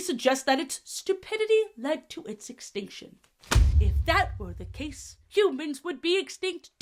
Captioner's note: book closing slam